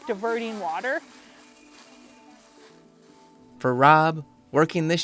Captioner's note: leaves rustling